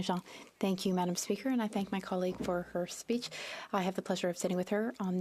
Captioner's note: speaking French